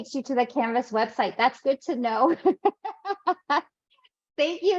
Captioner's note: laughs